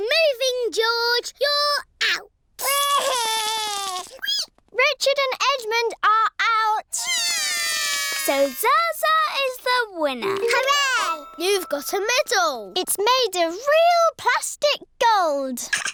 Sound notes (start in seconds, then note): 2.9 cries; 7.2 both cry